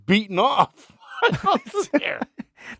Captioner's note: laughing